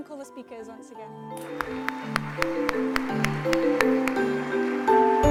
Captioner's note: applause